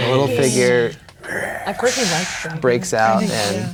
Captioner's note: imitating dragon